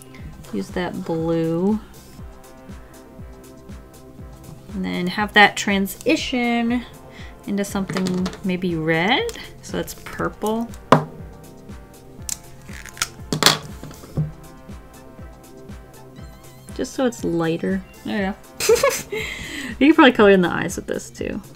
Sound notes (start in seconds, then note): 12.2 pen lid clicks off; 13.2 smack; 18.6 laughs